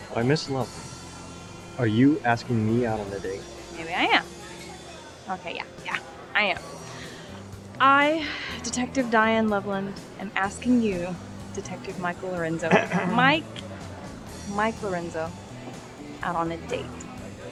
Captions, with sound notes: - Why, Miss Loveland, are you asking me out on a date? - Maybe I am, okay, yeah, yeah, I am. I, Detective Diane Loveland, am asking you, Detective Michael Lorenzo, (coughing) Mike, Mike Lorenzo out on a date.